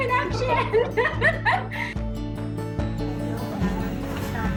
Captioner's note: all laugh